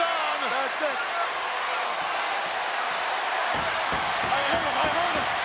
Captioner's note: crowd yelling